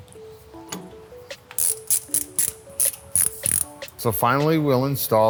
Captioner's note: wrench cranking